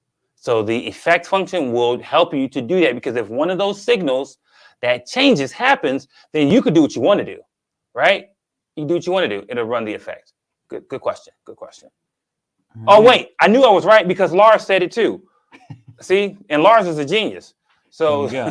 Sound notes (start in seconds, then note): 15.5 chuckles